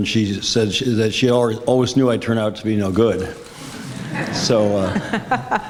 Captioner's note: audience, moderator laugh